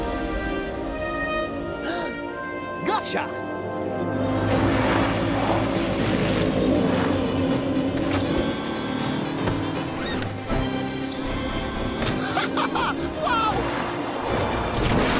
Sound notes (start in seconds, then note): 2.8 gasps; 12.1 laughs